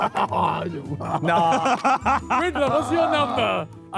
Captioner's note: Sidemen laugh